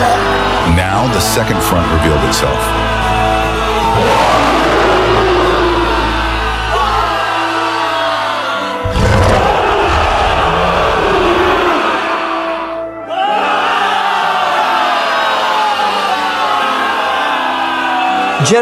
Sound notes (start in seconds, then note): 9.2 shouting